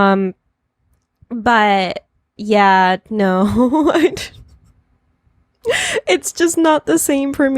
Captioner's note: laughs